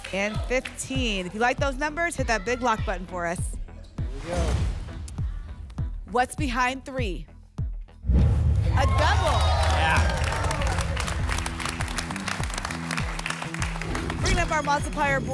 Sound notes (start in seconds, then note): 8.0 rumbling sounds; 11.0 applause and cheering